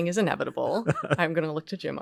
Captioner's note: laughs